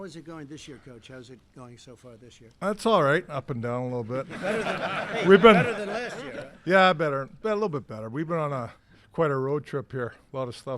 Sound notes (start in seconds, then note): 4.2 laughter